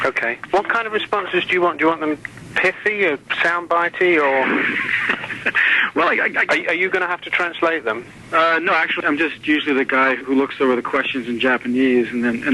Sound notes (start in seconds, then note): 4.3 interviewer laughs